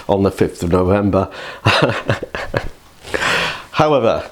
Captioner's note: laughs